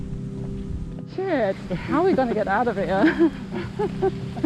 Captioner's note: laughing